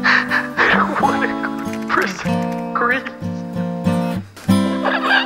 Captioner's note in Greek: τηλεφωνο